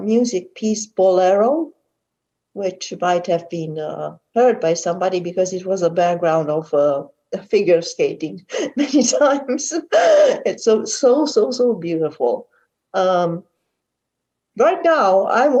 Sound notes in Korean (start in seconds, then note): 8.5 질문자 웃음